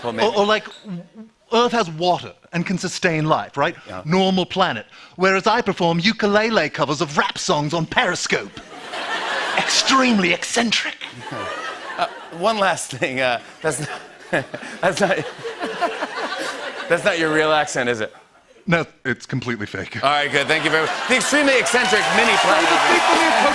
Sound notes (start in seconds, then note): 13.7 chuckles; 18.5 American accent; 23.3 cheers and applause